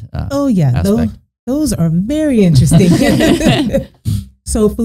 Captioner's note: all laughing